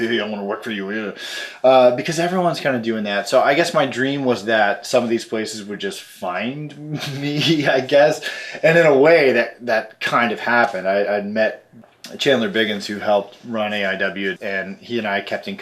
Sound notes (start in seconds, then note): 6.8 laughs